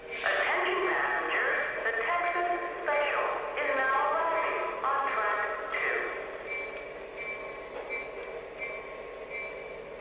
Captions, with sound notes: - [Voiceover] Attention passengers. The Texas Special is now arriving on Track 2. (bell chiming)